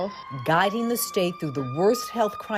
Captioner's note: sirens wailing